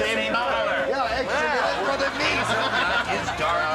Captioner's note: mumbles